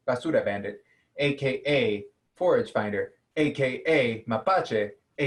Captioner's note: speaking in a foreign language